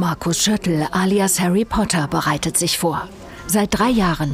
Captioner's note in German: none